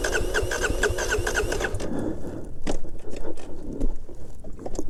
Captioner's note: bike wheels whirring